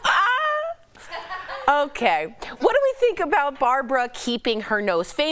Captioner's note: laughter